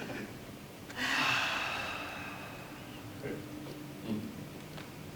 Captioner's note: all sigh